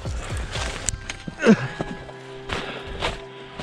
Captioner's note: old man moan